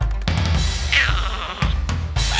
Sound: growling

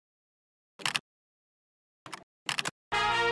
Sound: typing sounds

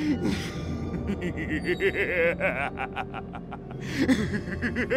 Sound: sinister laughter

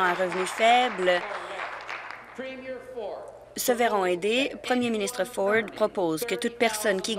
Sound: applause

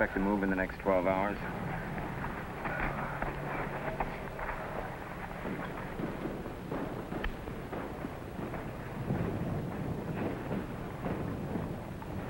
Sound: explosions continue in background

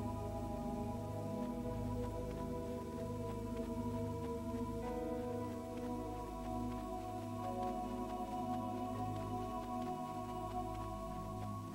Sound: running

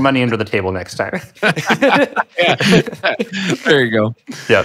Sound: laughing

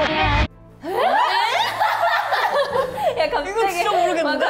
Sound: confused exclamations and laughter

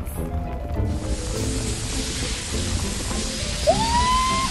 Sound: water spraying

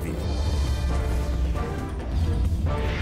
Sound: adventurous music; voiceover

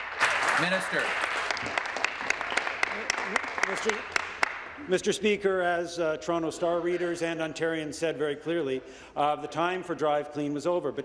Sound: applause

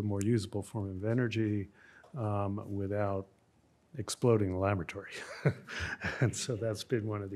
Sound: laughs

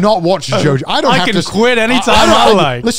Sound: laughs

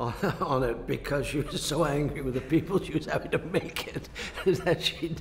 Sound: laughs

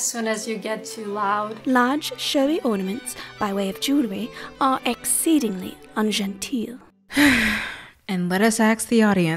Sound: sigh

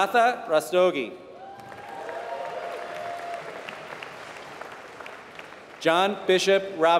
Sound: applause

